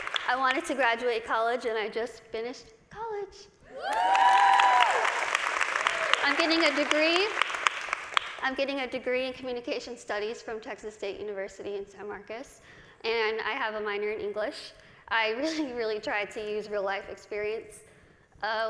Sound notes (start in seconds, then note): 0.0 applause; 3.7 cheers and applause